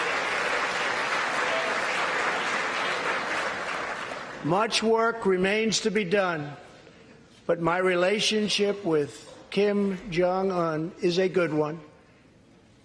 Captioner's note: applause